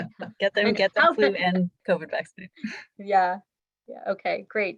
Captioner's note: several laughing and talking over each other